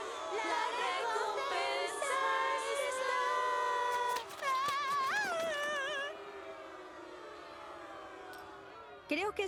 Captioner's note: loud booing